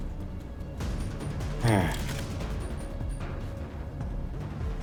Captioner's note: sigh